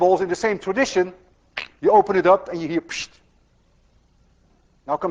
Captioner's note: makes whooshing sound